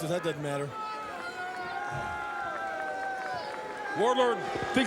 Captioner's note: applause